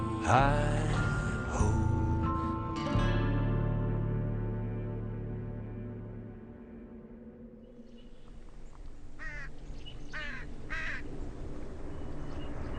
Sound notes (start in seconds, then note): 9.0 bird caws; 11.5 dramatic music